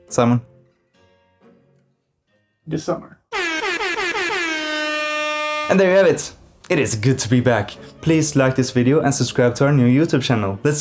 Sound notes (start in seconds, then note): 3.3 airhorn noises